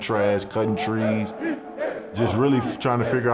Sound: players chanting

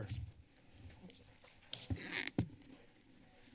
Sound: microphone squeaks

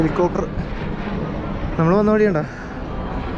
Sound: helicopter hovering

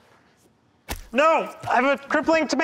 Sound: splat

